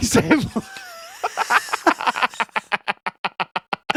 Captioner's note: laughing